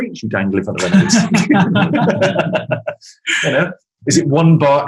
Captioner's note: group laughing